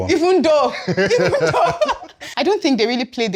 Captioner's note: laughs